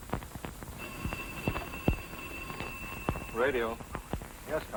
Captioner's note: phone ringing